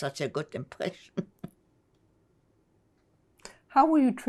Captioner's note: laughing